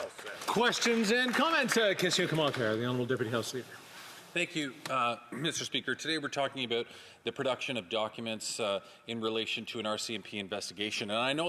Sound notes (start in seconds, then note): 5.3 speaking French